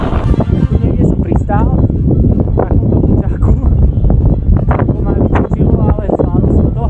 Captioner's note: strong wind